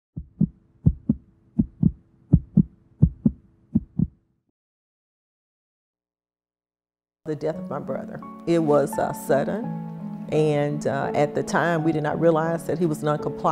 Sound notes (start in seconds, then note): 0.8 heart beat